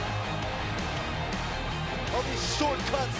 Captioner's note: crowd cheering